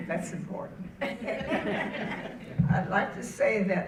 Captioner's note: audience laughing